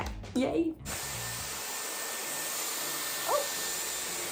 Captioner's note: blower whirring